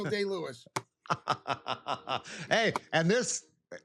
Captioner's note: laughter